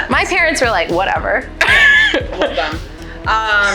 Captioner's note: laughs